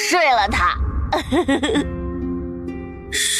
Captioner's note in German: lacht herzlich